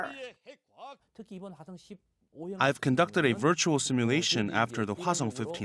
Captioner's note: Korean